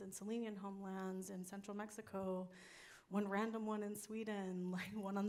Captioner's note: none